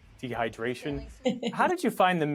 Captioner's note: laughter